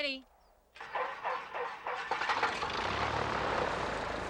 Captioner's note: engine whirring